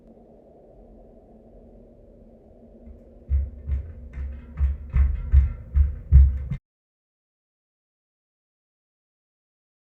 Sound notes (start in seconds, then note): 3.1 footsteps upstairs